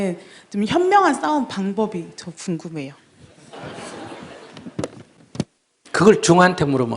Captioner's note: audience Laughter